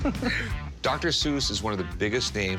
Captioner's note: chuckles